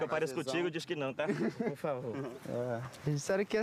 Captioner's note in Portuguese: risada